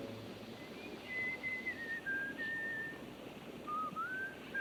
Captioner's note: Reb whistling